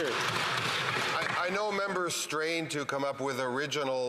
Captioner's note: some Applause